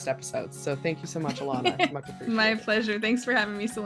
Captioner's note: laughing